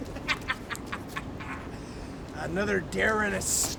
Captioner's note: laughter